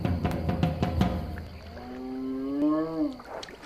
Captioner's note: hippo calls